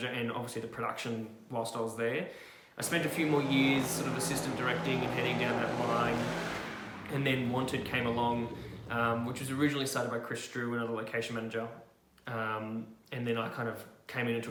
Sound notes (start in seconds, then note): 2.7 car revving